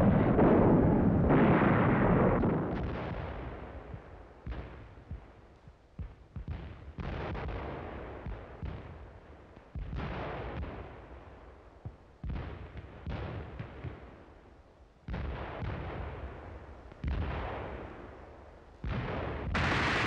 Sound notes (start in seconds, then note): 0.0 bombs exploding; 7.6 machine guns firing and shells exploding